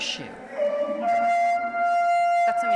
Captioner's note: shouting